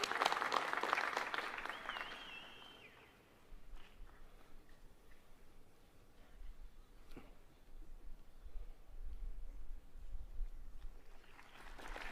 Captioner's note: applause